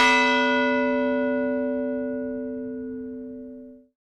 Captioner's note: bell ringing